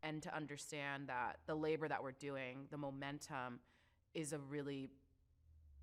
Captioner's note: none